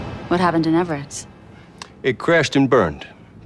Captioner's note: none